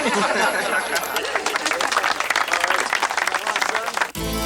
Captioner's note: townsfolk laugh; townsfolk applaud; brooding music